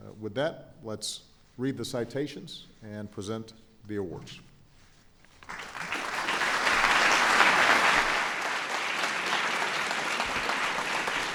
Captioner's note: applause